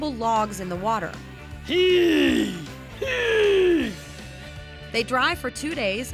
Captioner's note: grunting